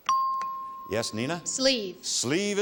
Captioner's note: chimes